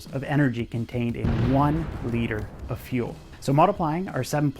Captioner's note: fire cloud explodes